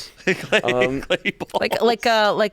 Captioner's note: laughs